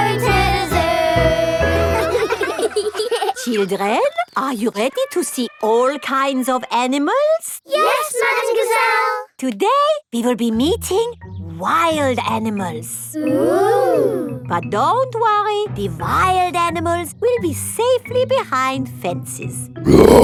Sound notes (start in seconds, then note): 1.6 children laughing; 19.8 roars; 19.9 screams